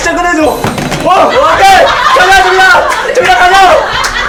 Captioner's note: drops phone